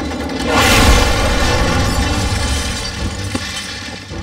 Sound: crashing

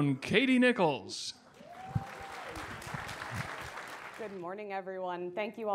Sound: audience applauding

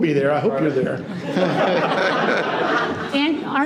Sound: people laughing

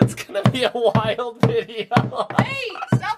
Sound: hammers wall

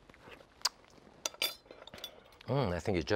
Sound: lips smack

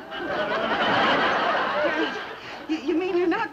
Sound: audience laughs

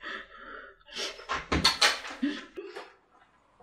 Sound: door opens

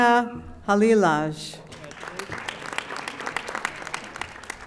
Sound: audience applauding

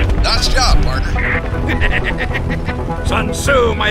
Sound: The F4U-4B laughs

